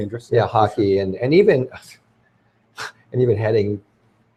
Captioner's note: laughs